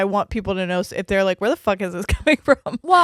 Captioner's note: chuckles